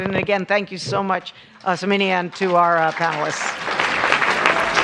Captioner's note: applause